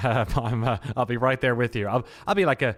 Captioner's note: chuckles